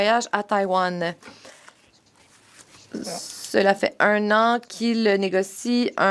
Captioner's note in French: voix de l'interprète